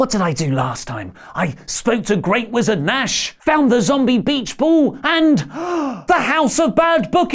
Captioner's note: gasp